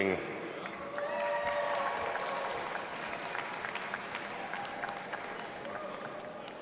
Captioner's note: audience applauding and cheering